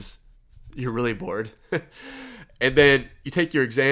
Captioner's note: laughs